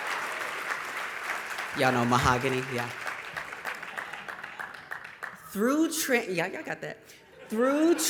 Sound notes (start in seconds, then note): 3.3 applause